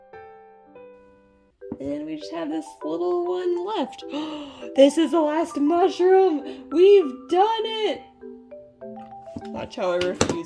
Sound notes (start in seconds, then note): 4.1 gasp